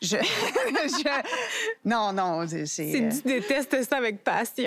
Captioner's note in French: rires